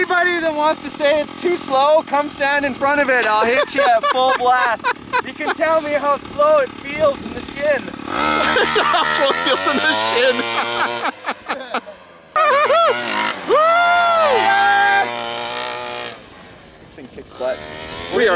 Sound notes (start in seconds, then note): 8.2 laughs; 10.9 laughs; 12.3 yells in excitement